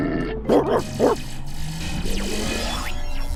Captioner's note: barking angrily; static noises